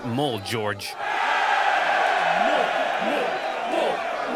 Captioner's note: crowd cheering